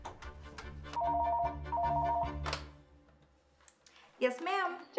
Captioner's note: phone ringing